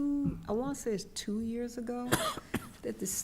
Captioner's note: coughs